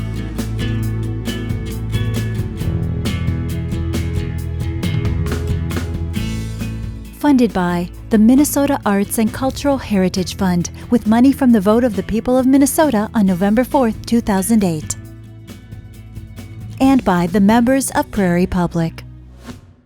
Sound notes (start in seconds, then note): 6.4 voiceover